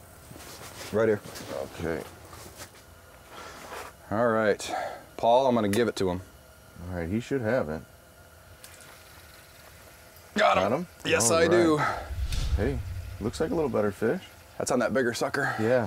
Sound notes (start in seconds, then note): 7.0 voiceover; 9.0 reel whirring